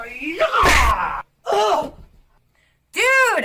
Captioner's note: Daisy groans